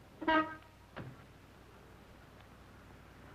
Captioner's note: horn honking